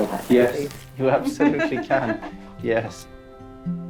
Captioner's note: laughs